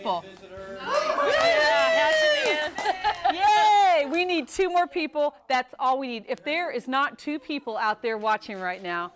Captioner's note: �cheering and applause�